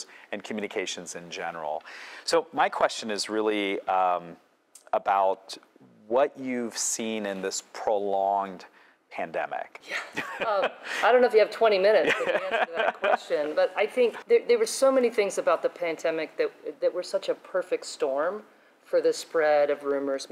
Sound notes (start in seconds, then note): 10.2 laughs